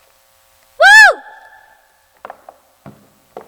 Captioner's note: yells